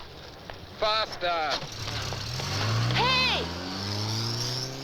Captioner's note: engine Starts